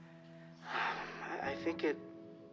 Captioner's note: Steve sighs